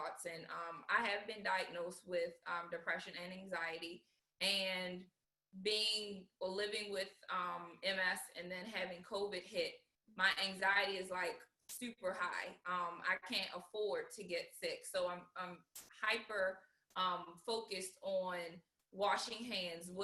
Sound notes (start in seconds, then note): none